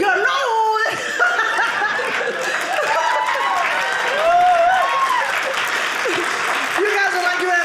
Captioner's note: audience cheering